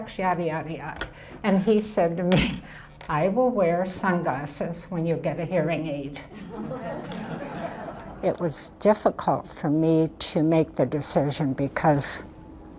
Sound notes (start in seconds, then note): 6.3 laughter